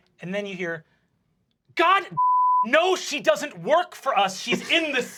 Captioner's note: beep